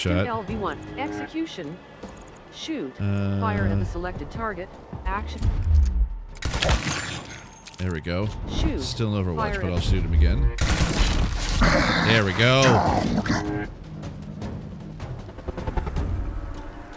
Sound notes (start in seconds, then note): 6.4 gunshot; 10.6 gunshot; 13.6 exciting music